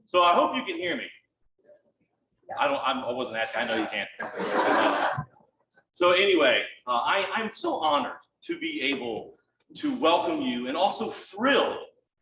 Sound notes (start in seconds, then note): 4.2 audience laughs